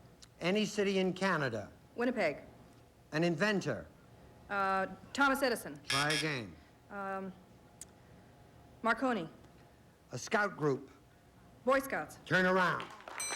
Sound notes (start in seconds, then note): 5.8 buzz buzz